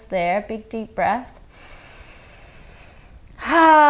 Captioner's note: inhales deeply